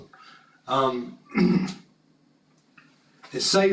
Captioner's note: cough